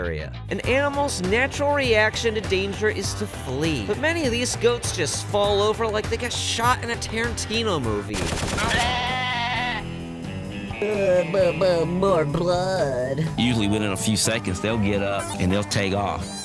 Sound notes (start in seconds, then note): 8.1 shooting sound effect; 8.5 goat screams; 10.8 Tarantino voice